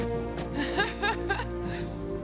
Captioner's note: female laughter